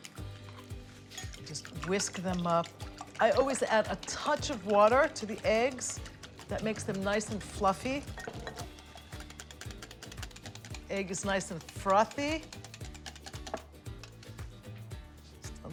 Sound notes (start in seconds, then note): 8.0 whisk clinking